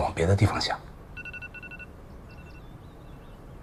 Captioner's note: alarm